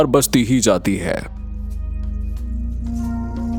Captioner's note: speaking in foreign language